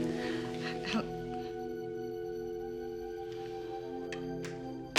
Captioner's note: dialtone drones